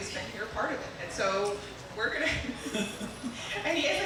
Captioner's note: chuckling